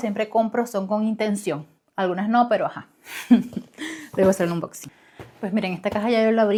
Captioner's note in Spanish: risas